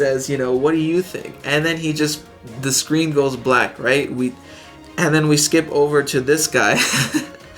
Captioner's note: chuckles